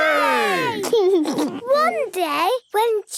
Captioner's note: laughs